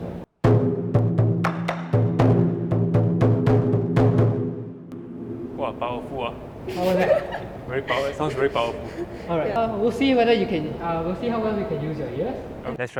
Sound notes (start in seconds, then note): 0.4 drum sound; 10.0 laughs